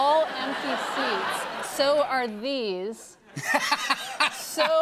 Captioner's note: laughter